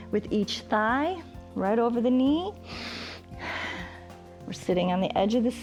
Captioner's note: inhales and exhales